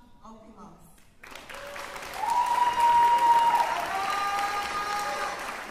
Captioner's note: applause